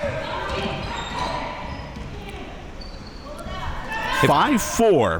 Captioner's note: spectators shouting